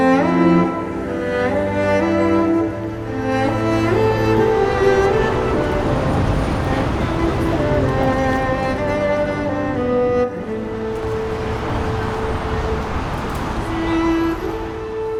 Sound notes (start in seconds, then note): 2.6 city traffic in background